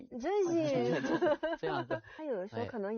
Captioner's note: laughs